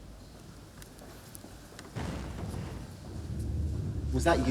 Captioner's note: thump